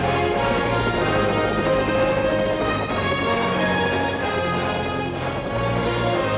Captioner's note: helicopter rotors whirring